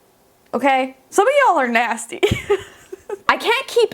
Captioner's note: laughing